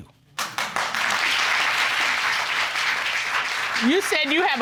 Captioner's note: audience applauding